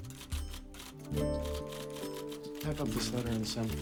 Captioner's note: typing